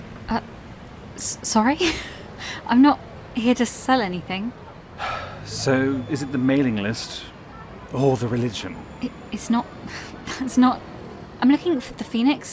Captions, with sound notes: ELIANNA Um- S- Sorry? (Laughs) I’m not- here to sell anything. RAVEN (Sighs) So is it the mailing list or the religion? ELIANNA It’s not- (Sighs) That’s not- I’m looking for the Phoenix?